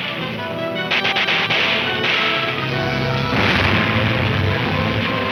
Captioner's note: guns firing aggressively